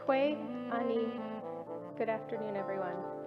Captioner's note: speaking in foreign language